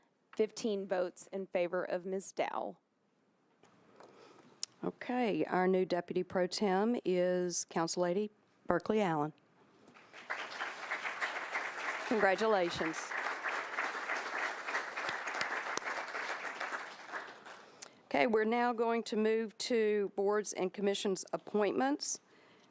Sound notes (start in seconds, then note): 15.1 applause